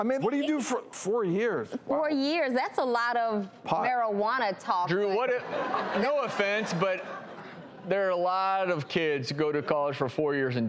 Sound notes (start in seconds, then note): 5.3 audience laughs